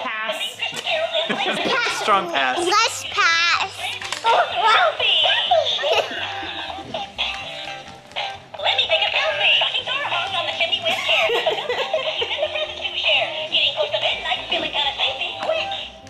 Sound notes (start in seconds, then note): 1.2 laughs; 4.1 doll singing; 6.1 giggles; 10.8 laughs; 13.3 doll singing